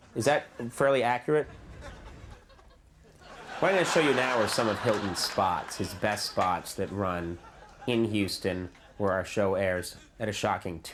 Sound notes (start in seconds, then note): 3.1 laughing